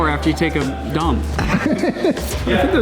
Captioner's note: laughter